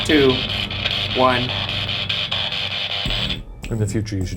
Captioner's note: spirit Box crackles